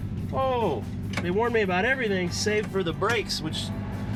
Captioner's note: engine roaring